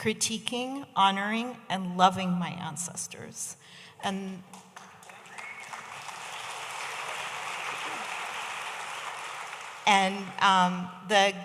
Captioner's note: audience applauding